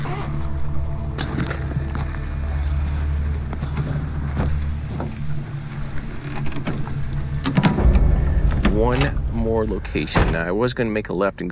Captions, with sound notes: (latch clicks) (tense booming music) One more location, now I was gonna make a left